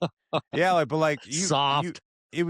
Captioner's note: laughs